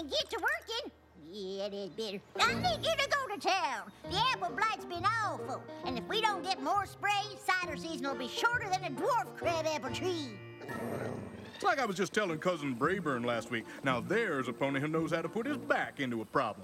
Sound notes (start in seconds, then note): 10.6 both growl